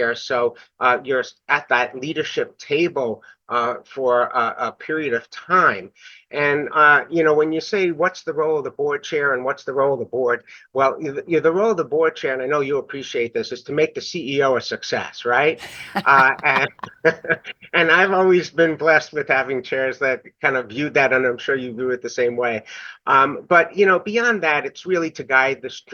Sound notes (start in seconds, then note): 15.6 laughs